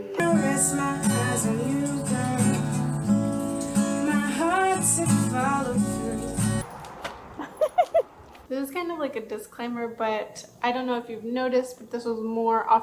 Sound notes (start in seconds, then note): 7.4 laughs